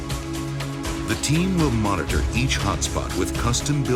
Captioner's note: voiceover